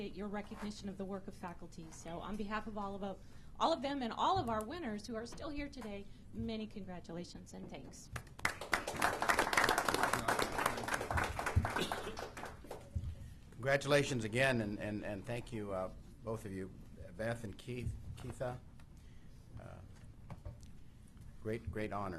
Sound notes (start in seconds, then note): 8.2 applause